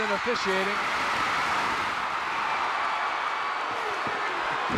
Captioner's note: audience cheering